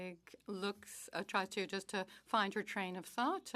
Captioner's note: speaking French